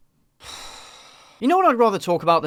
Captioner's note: disgusted sigh